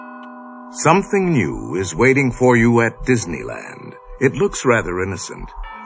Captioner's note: creepy voice